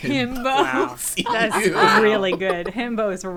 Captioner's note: laughing